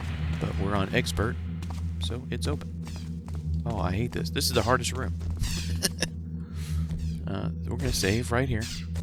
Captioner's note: laughs